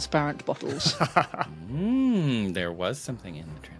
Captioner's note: chuckles